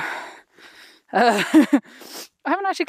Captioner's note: chuckles